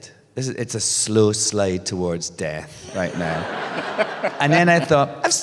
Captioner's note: laughter